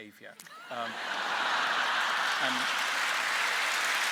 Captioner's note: laughter and applause